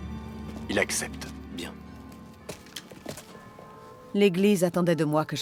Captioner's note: bells ringing